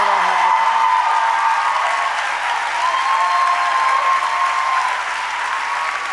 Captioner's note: applause